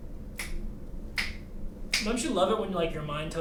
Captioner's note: Jake snapping fingers